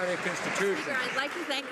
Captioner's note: some Applause